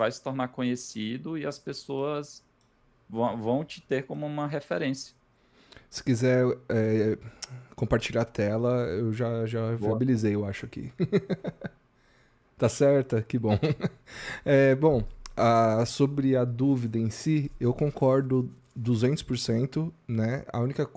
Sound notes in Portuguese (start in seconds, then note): 10.9 risadas